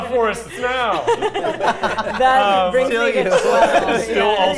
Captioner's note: players laughing